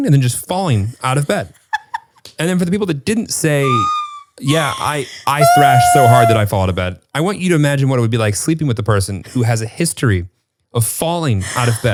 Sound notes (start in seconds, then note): 1.8 laughs